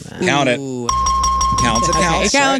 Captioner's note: phone ringing